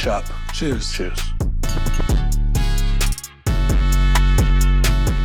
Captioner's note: glasses clinking